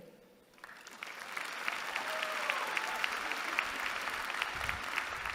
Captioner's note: applause